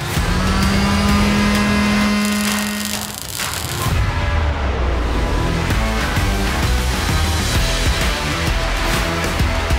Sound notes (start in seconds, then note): 2.3 cracking welding noises; 5.1 bright upbeat music